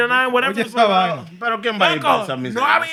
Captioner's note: non-english Speech